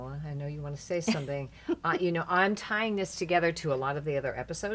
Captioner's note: laughing